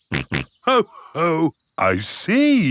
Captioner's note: snorts